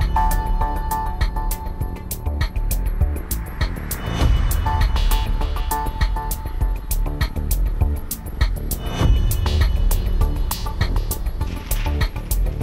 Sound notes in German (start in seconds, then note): 3.9 Verkehrslärm